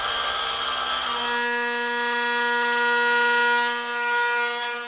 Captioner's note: equipment drilling